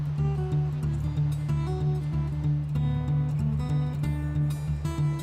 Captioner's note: water rushing